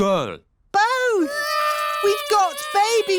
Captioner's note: babies cry